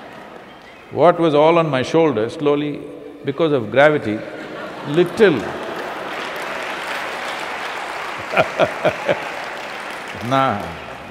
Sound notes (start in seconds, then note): 0.0 laughter; 7.7 laughter/Applause; 8.0 laughs